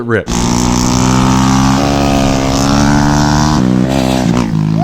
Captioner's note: motorcycle engine roaring